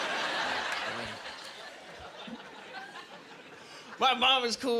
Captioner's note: laughing